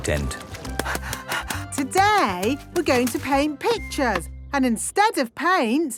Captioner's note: panting